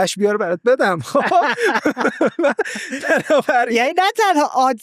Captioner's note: laughs